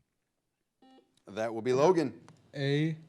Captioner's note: buzzer blares